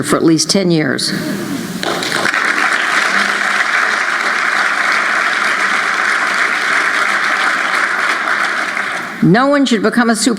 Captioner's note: applause